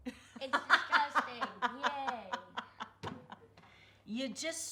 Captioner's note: laughing